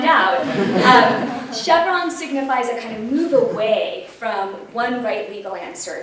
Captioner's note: laughter